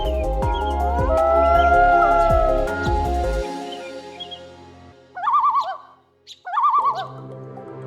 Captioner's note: lake Loons Calling